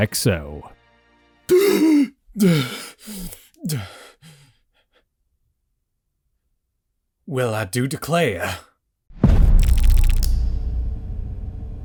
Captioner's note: in a bad southern accent